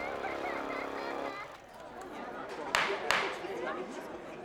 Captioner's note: crowd murmuring, gavel bangs